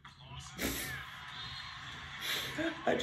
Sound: chuckles

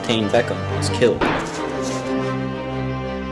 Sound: sound of gunshot

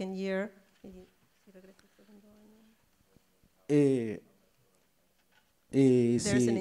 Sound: speaks in foreign language

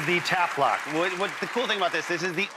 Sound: audience clapping

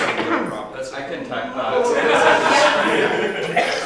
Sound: laughter

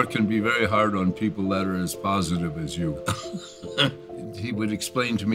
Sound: laughs

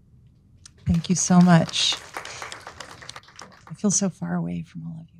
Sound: audience applauding

